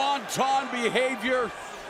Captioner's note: crowd cheering